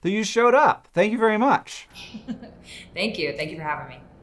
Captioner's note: Sue chuckles